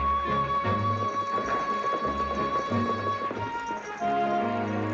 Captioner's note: horse hooves trotting